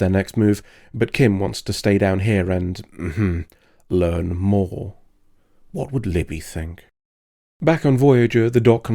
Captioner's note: ahem